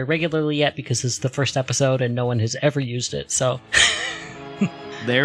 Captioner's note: laughs